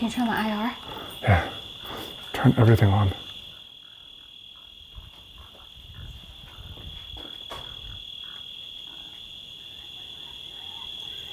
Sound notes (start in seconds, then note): 3.6 crickets chirping; 5.7 pigs grunting; 7.7 crickets chirping